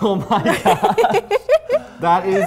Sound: laughter

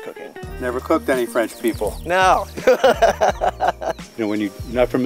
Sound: laughing

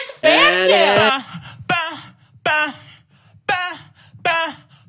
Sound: vocalizing

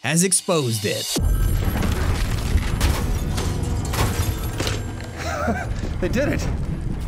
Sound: phone rings

